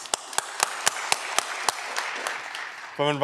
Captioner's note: audience clapping